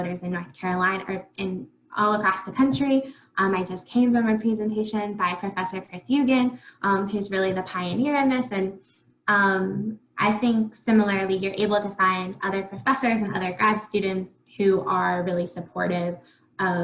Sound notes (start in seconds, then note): 6.0 faintly speaking